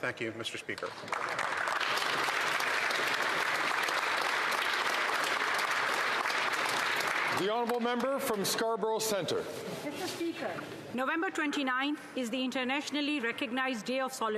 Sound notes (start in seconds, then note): 5.8 some Applause